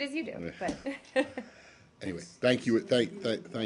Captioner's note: laughter